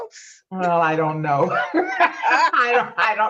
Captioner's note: laughs